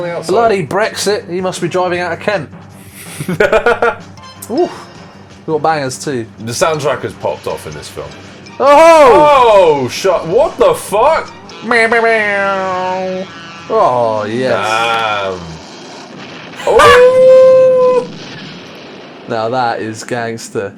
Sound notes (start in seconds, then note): 11.5 truck horn noises